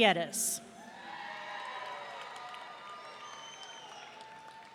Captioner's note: audience cheering